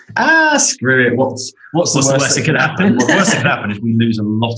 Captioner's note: laughs